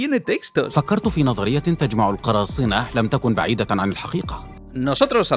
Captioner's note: speaking in Arabic